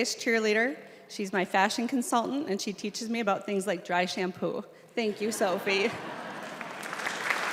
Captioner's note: applause